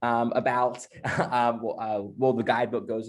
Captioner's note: laughs